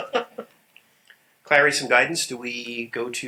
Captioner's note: laughter